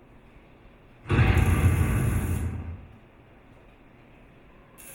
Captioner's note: loud crash echoes